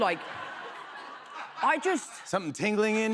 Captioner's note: laughter